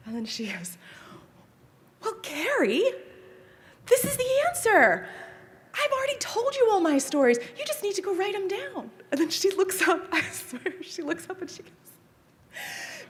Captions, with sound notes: And then she goes, "Well, Kerry, this is the answer. "I've already told you all my stories. "You just need to go write them down." And then she looks up, (chuckles) I swear she looks up and she goes,